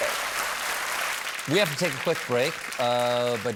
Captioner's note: applause